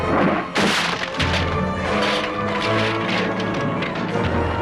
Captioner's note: table splinters